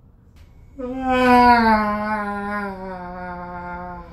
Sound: screams

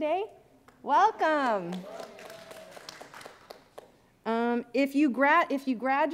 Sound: audience applauding

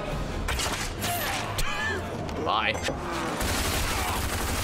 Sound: laughs

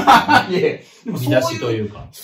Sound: laughs

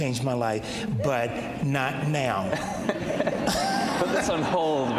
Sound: all laughing

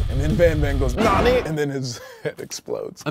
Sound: speaks Japanese

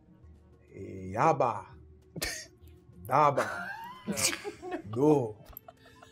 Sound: speaking in foreign tongues

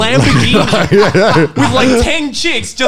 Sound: laughing loudly

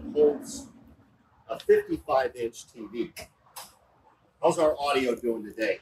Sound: clicks

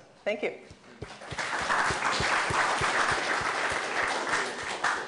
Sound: applause

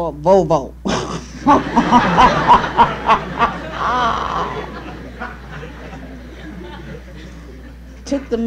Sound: laughter

